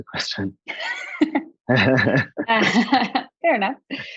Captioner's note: both laughing